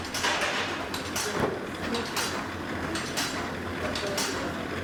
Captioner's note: machine whirring and clanking